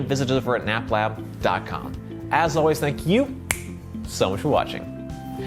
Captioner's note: fingers snap